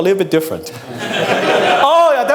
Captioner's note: audience laughs